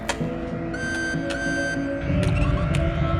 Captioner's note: beeping